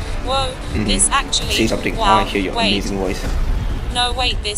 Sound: inhales

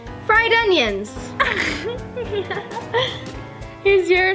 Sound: upbeat, jazzy music; laughs

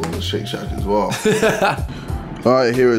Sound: laughing

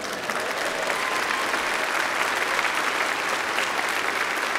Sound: applause

